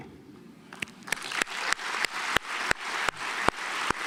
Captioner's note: audience applauds